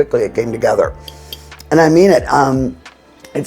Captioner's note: spoon clinking